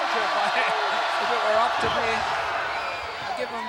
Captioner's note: blows thudding